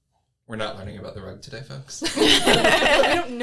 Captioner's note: everyone laughs